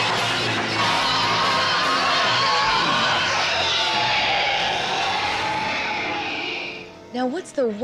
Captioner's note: screaming